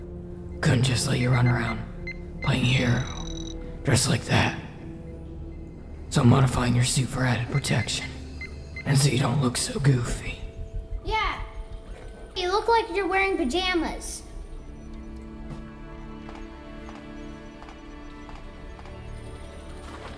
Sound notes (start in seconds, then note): 11.0 male Voice; 15.7 soft, gentle music